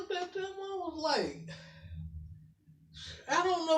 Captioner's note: exhales